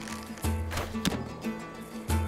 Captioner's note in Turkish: Ok fırlatma sesi